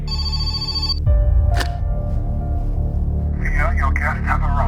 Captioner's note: phone ringing